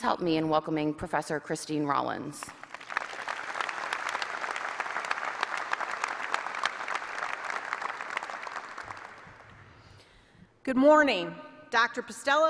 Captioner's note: applause